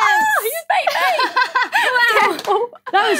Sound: laughs

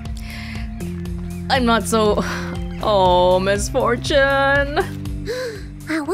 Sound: exhales

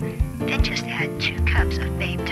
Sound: sexy female robo caller

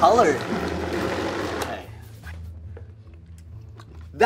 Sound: mixer whirs

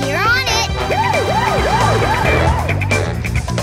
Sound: sirens wailing

